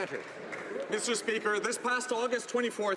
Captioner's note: some Applause